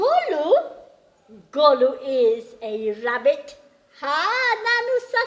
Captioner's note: speaks in gujarati